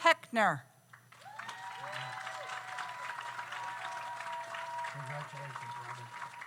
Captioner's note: audience applauds; audience cheers